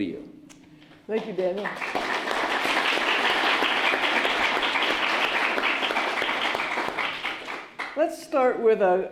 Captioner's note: applause